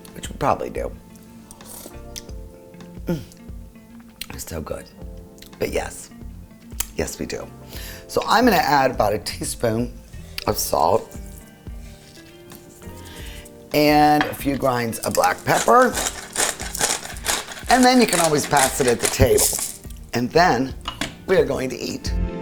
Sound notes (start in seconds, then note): 1.5 slurps; 11.3 salt squeaking; 16.0 cutlery grinding